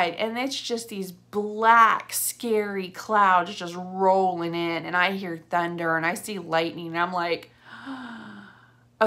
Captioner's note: gasp